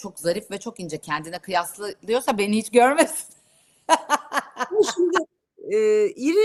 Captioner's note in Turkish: kahkaha